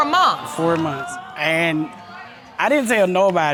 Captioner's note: audience exclaiming